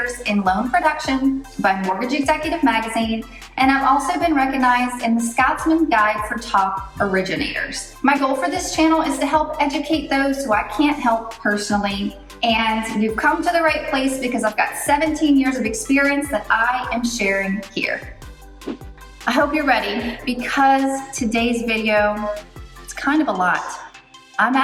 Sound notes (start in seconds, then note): 18.6 air whooshes